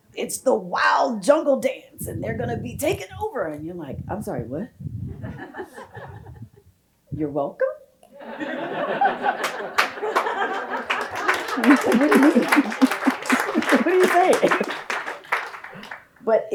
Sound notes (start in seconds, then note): 5.2 audience laughs; 8.2 audience laughs; 10.9 audience applauding